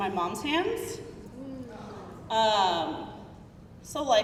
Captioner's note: crowd murmuring